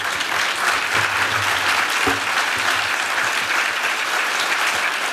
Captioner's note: applause